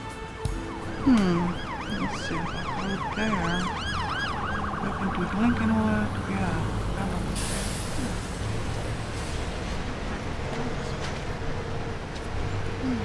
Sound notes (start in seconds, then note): 0.1 emergency vehicle siren ringing; 7.2 air brakes hissing